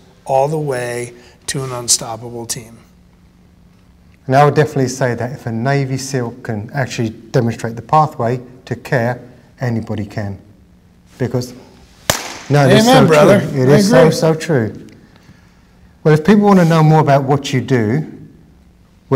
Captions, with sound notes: all the way to an unstoppable team. - Now, I would definitely say that if a Navy SEAL can actually demonstrate the pathway to care, anybody can. Because, (claps) Now it is so true - Amen brother, Amen. - It is so so true. But if people wanna know more about what you do,